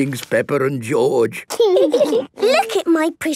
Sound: laughing

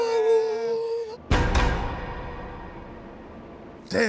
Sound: both vocalize; bars clink

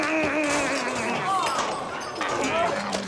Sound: gasping continues; moaning

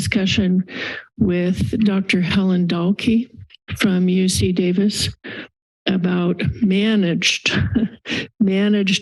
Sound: chuckle

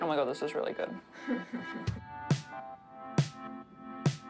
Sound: chuckles

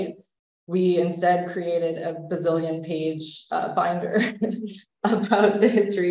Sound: laughs

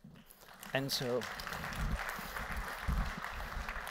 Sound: applause

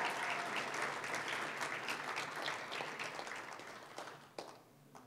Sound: applause, cheering; applause

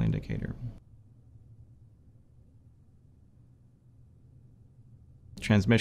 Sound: silence

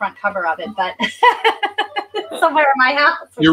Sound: laughs

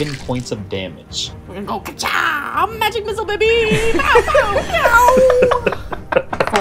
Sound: laughter

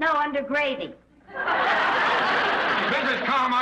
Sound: audience laughs

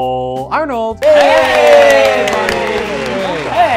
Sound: cheering

